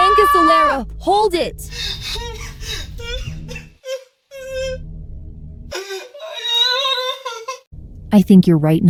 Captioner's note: sobbing